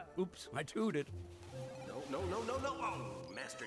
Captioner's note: whistle toots; video game beeping